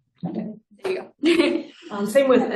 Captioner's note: laughs